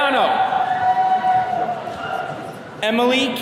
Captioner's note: attendees cheering